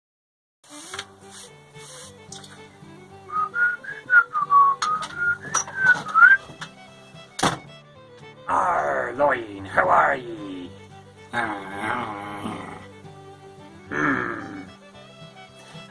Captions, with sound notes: [whistling] [door opens] Arr, Loin, how are ye? [grumbles] Hmm.